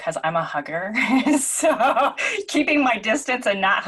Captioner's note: laughing